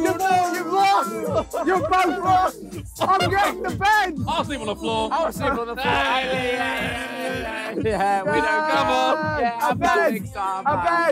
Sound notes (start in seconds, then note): 5.4 cheering